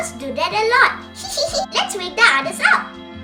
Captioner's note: laughs